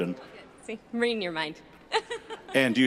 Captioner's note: laughing